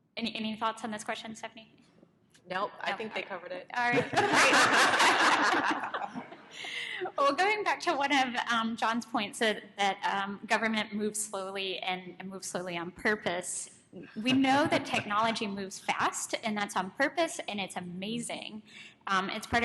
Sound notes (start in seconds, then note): 3.8 panelists laughing